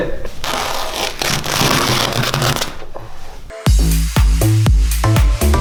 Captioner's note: ripping and tearing; electronic music